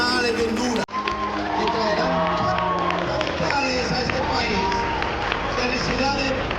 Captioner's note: explosive cheering and applause